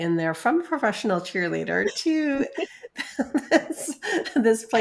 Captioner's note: laughs